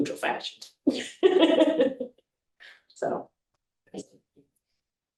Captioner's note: laughing